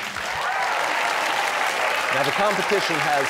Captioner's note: cheers and applause